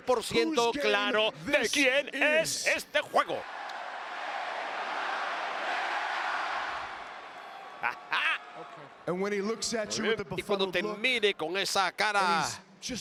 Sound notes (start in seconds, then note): 3.5 applause; 3.5 laugh